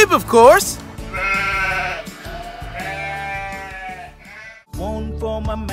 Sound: sheep noises baa,baa

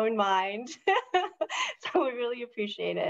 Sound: speaker laughing

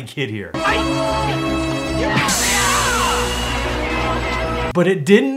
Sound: crowd cheers

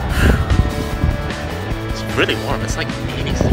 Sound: heavy breathing

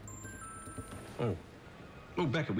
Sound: cellphone chimes

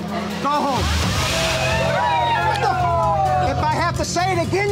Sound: cheering

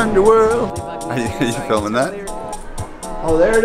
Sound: laughs

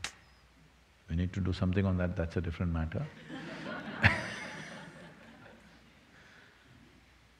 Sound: laughter

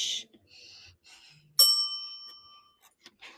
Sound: bell dings

